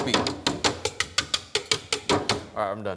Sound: whisk clanking

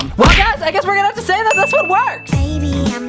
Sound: dinging

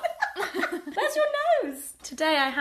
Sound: laughter

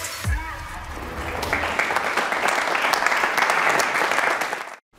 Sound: applause

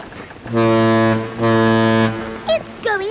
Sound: ship horn blowing

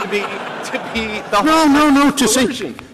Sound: laughter

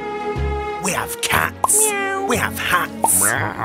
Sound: meow

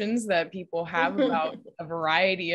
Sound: laughs

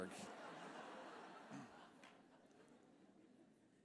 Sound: laughter

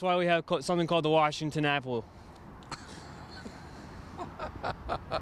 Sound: laughing

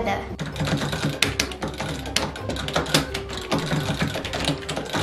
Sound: buttons clicking

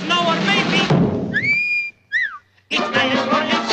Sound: wolf whistle

